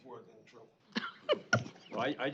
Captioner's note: laughs